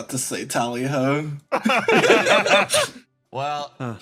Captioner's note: laughs